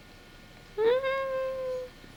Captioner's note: vocalizes mmmm